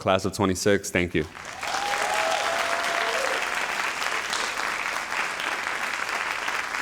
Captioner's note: all applauding and cheering